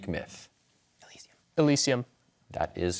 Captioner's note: whispers